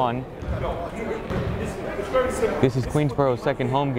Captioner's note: chattering